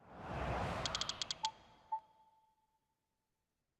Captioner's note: air swooshes